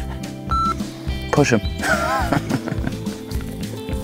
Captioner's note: laughs